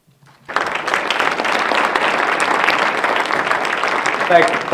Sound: audience applauds

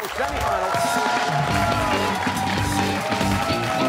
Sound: cheers and applause

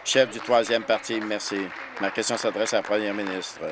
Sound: applause

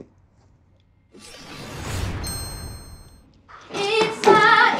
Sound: swoshing and ring

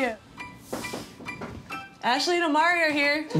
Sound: knocks

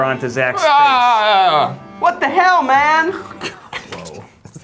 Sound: yelling

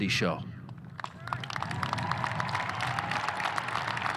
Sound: audience cheering

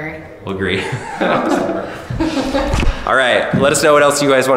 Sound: laughter

